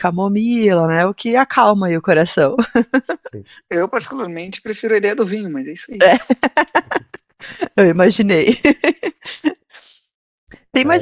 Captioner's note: laughs